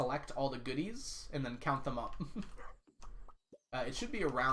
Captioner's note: chuckles